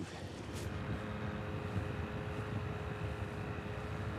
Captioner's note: boat engine revving